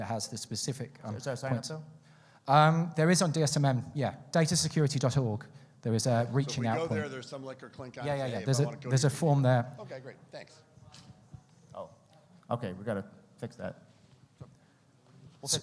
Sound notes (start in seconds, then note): 8.2 speaks faintly